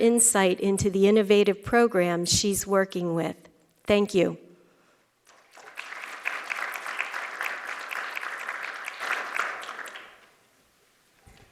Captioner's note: applause